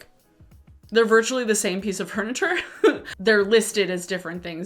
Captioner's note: chuckles